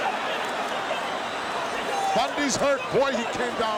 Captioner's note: crowd cheering